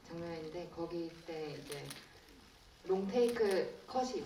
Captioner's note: none